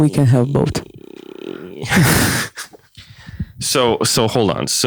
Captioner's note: does mouth noises